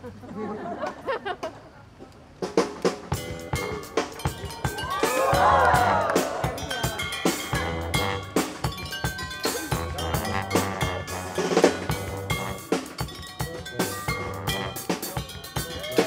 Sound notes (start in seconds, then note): 0.0 audience laughs; 4.6 audience cheers; 4.8 slow music continues